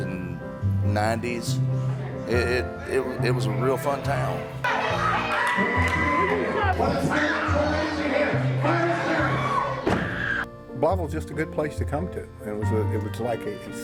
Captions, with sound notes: TIME. [CHEERING] BLYTHEVILLE WAS JUST A GOOD PLACE TO COME TO, IT WAS